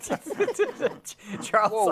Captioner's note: laughter